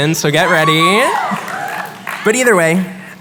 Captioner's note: cheer